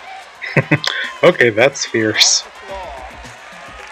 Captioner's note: chuckling